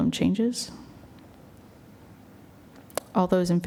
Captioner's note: silence